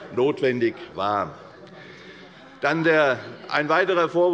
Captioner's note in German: Unruhe - Glockenzeichen des Präsidenten